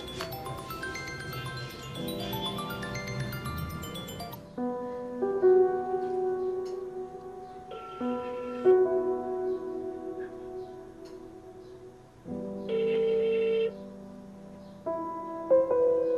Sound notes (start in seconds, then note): 8.3 waiting to answer beep; 12.7 waiting to answer beep